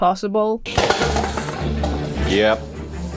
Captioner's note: cups clatter to the floor